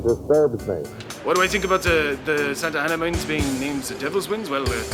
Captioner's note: feigning German accent